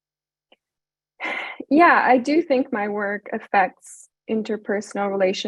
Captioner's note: sighs